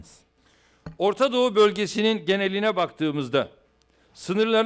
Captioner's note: non-english speech